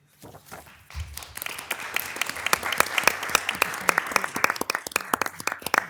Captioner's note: attendees applauding